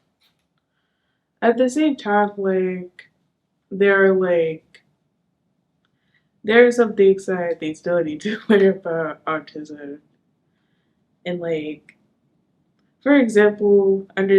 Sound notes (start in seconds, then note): none